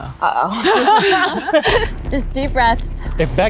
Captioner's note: group laughs